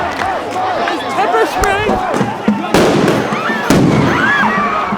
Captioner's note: screams